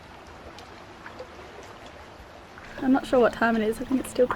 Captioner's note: waves gently lapping